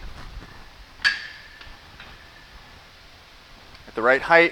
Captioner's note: barbell clinks